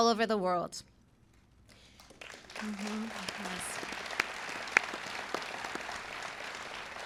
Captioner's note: applause